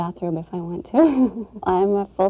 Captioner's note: laughs